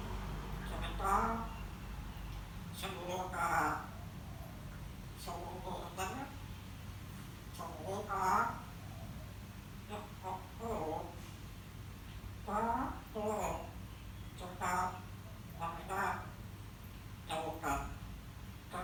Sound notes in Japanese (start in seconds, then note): 3.4 タイ語